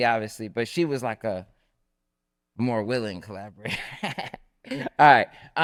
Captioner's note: laughs